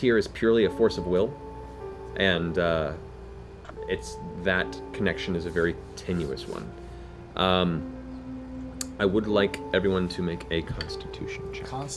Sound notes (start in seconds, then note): none